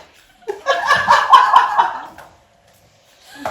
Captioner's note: audience laughing